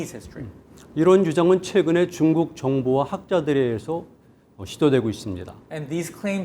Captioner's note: speaking in Korean